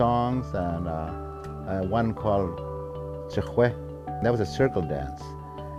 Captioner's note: speaking in foreign language; speaking in foreign language